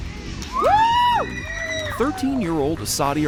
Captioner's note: people screaming in background